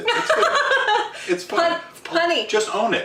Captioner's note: laughing